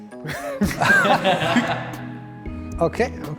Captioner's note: all laugh